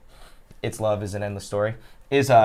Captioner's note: sniffs